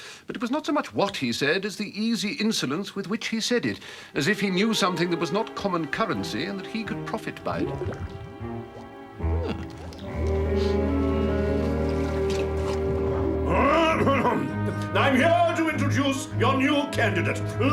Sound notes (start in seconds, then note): 8.3 water gurgles; 14.2 Spode clears throat